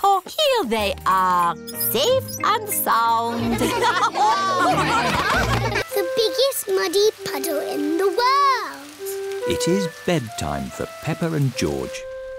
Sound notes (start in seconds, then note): 3.3 laughter